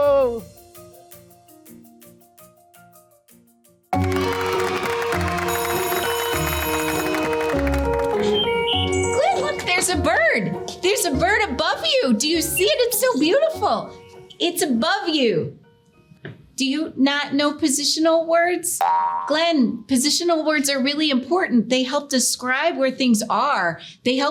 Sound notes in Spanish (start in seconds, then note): 0.2 música suave y juguetona; 3.9 aplausos del público